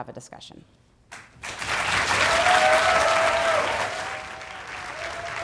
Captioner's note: applause